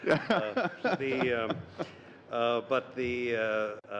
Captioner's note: laughter